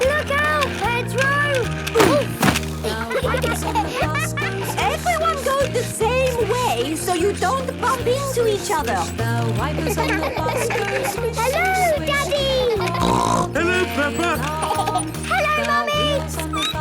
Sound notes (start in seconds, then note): 2.8 laughter; 9.8 laughter; 12.6 snorting; 14.2 laughter; 16.6 squeaking